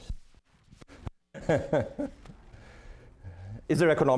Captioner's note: laughing